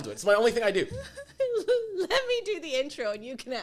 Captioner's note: laughs